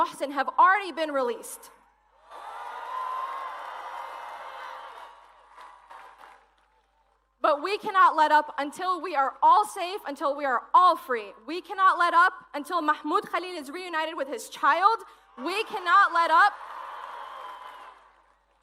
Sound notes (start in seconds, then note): 10.8 cheers and applause